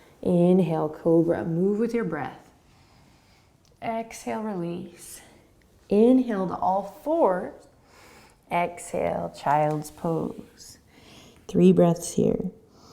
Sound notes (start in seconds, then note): 2.8 inhaling; 12.7 deep breathing